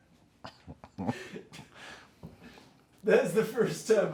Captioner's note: laughing